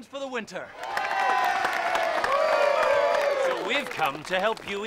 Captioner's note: cheering and applause